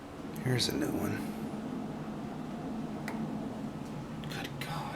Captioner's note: normal voice